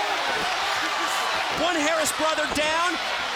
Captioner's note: crowd cheering